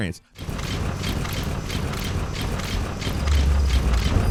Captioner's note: gameplay playing